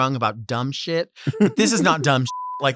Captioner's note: Sapphira laughs